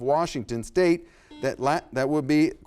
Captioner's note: buzzer sounds